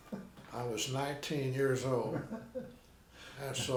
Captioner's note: laughing